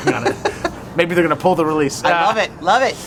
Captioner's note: laughter